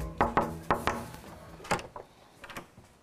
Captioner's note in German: Klopfen